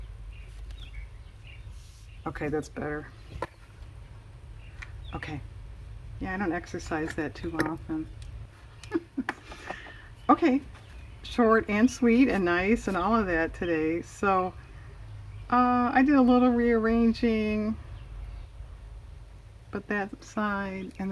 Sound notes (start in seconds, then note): 8.8 laughs